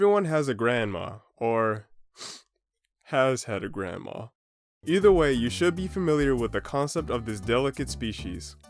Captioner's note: sniffs